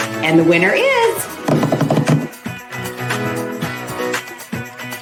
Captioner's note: drumming on table